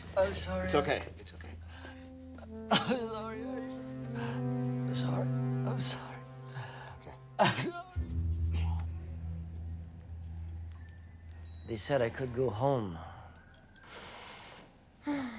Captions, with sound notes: - Oh, sorry. - It's okay. It's okay. - (cries) I'm Sorry. Sorry, I'm sorry. - Okay. - Sorry. They said I could go home.